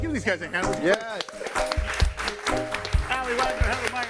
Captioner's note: all clapping